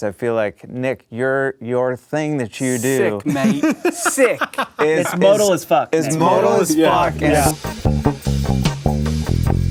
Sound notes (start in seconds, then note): 3.1 laughing; 6.1 bassline